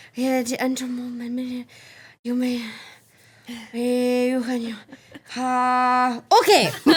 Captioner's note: everyone laughing